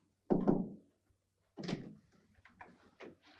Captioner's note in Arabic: يطرق